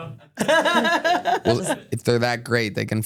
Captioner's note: laughs